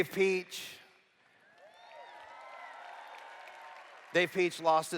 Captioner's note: cheers